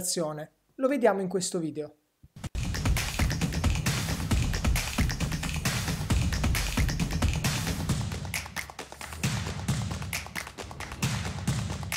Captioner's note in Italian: Applauso